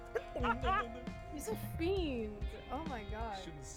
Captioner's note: laughs